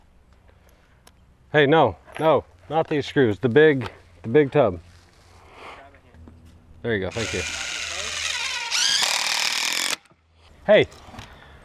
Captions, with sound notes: - Hey. No, no. Not the screws. The big tub. - Grab it here. - There you go. Thank you. (machine whirring) Hey!